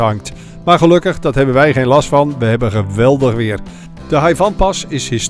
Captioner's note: voiceover